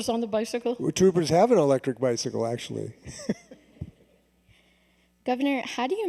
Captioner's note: laughs